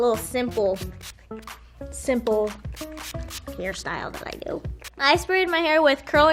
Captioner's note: curl spray spraying